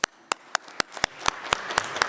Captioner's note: applause